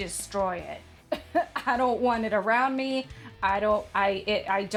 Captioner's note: weirdly coughs/laughs